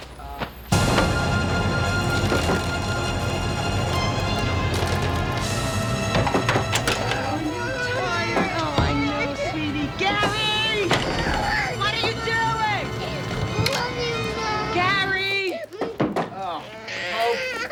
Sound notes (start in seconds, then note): 11.4 crying; 15.5 shuts off record player; 16.5 crying